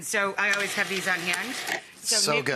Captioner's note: food processor buzzing